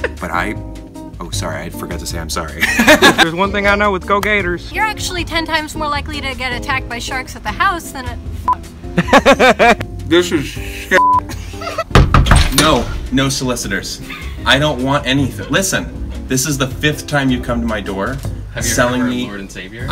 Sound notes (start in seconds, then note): 2.6 laughs; 3.2 in mock southern accent